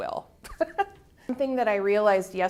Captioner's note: chuckle